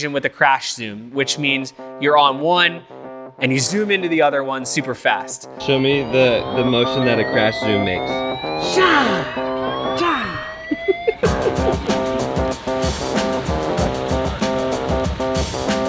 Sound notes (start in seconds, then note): 8.6 makes sound effect; 10.8 laughing